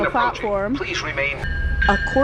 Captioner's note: train bell rings